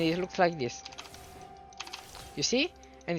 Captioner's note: keyboard clicking